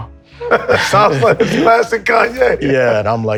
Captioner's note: laughs